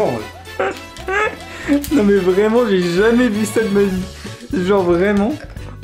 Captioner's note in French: Rires